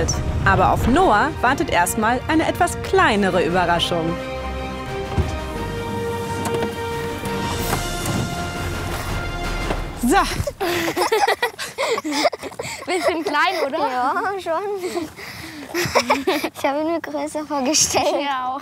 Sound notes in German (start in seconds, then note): 4.8 Dynamische Musik; 14.2 lachend